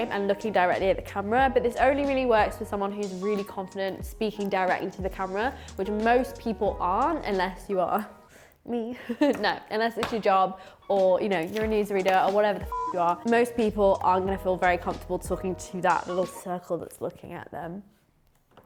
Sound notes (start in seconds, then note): 8.7 laughs; 12.7 beep